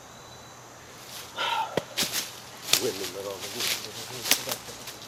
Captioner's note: sigh